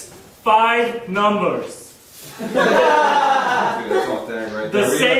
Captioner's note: audience laughing